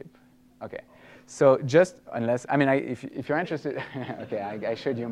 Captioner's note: laughter